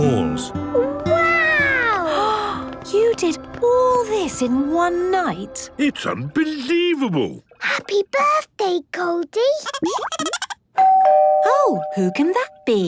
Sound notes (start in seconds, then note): 9.7 Goldie giggling; 10.8 doorbell ringing